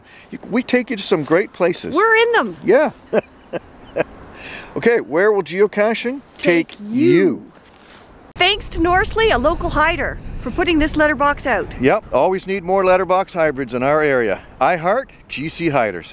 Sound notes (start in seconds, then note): 2.9 chuckles